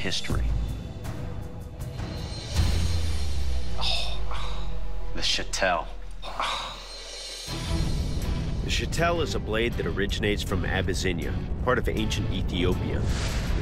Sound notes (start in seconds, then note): 6.1 sighs